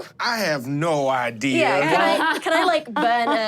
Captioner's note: laughs